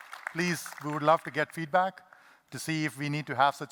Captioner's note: applause